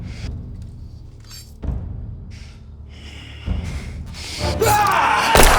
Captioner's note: knife clinking; Brown yelling